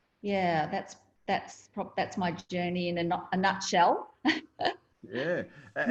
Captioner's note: laughs